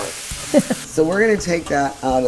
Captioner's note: laughs